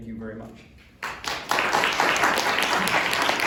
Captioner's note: applause